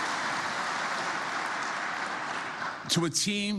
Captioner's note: applause